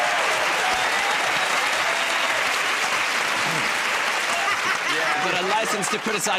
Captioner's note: laughter